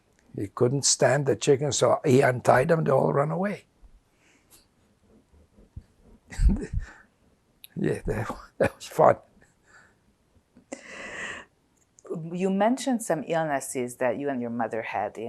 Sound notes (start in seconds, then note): 6.3 laughing